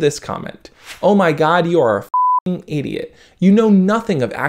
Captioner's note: beep